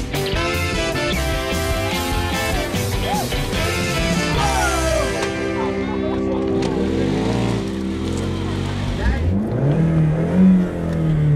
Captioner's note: engine Revving